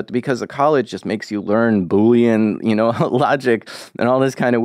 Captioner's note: laughs